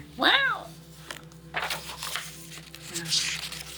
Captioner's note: paper rustling